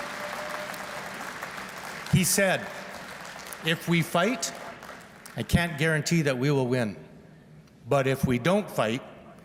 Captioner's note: applause